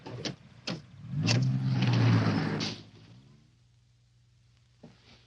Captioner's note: car engine revving